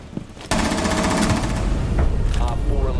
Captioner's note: gunfire